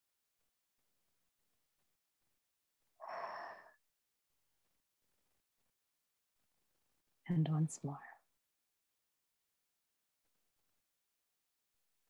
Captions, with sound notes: [exhales] and once more.